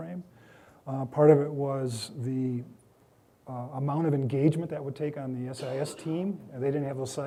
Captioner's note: coughing